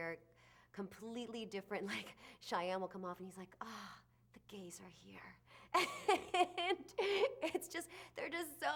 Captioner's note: laughs